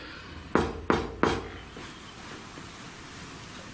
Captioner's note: knocking